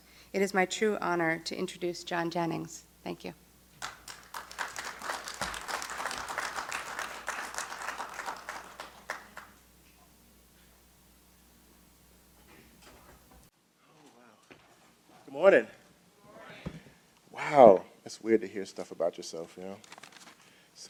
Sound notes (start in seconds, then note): 3.8 applause